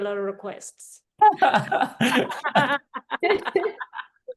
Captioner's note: all laugh